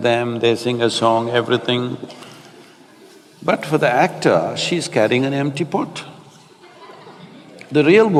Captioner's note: laughter